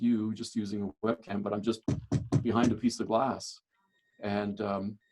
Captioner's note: knocks